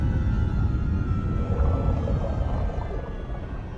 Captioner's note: growling